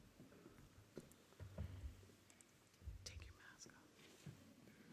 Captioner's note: faintly speaking